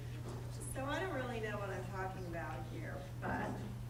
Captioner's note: voiceover